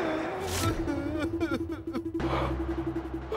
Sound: sobbing

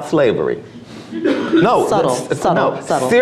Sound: audience laughs

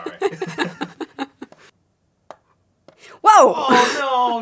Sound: laughing

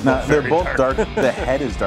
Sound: laughs

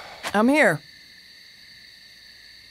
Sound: exhales

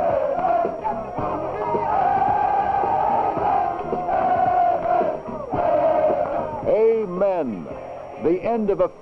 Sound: players chanting

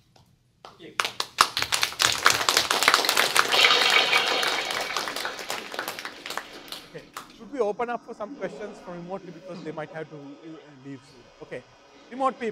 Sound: applause

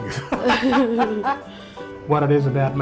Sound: laughing

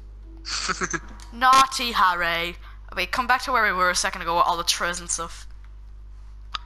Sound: giggles

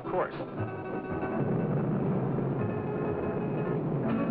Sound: engine rumbling

